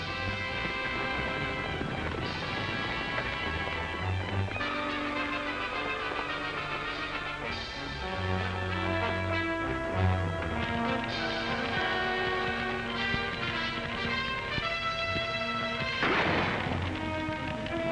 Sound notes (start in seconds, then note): 0.0 ominous music; 1.3 hooves pounding; 1.3 ominous music; 12.3 fire crackling; 15.8 gun firing